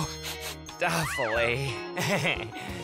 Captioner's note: sniff-sniff; chuckles